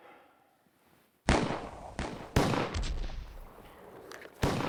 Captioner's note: gunfire